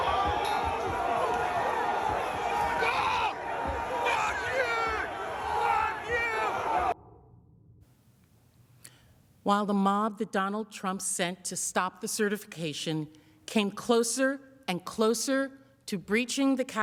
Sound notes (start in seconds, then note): 10.9 yelling